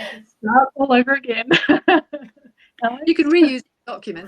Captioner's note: laughs